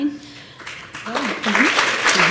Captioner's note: applause